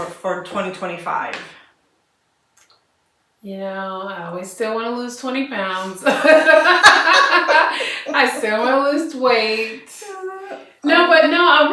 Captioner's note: laughter